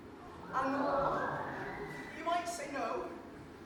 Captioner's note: audience awws